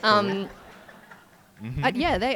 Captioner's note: audience laughing